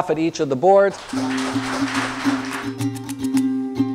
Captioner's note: applause; upbeat music